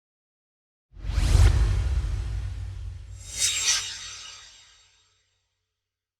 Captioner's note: swoosh